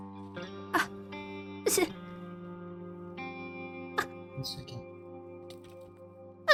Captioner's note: ROSE scoffs in disbelief